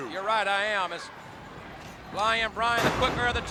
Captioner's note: body thudding